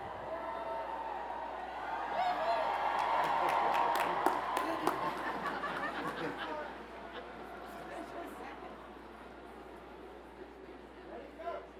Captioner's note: cheers and Applause